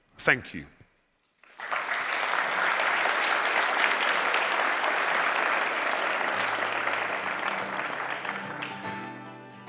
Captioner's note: applause